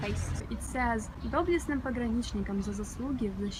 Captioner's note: reading in Russian